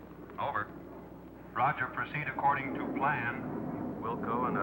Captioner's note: man On Radio